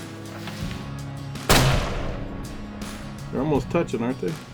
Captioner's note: gunshot